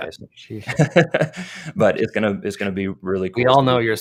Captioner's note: chuckles